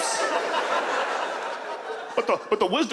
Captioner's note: audience laughs